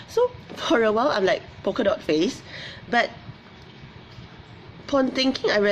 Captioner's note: none